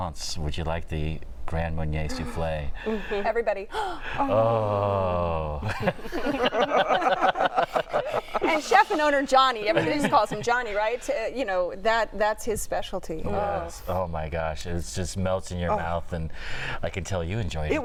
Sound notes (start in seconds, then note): 5.6 laughter